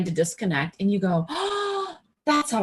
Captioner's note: gasps